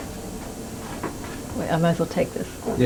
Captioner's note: helicopter sounds